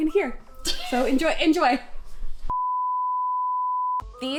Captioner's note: beeping